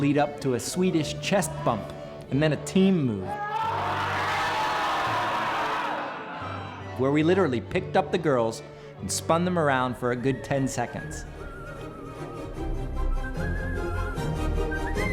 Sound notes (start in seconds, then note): 3.3 team shouts; 12.0 classical music